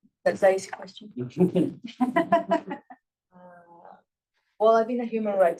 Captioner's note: attendees laughs